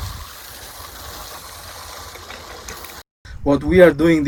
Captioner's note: water running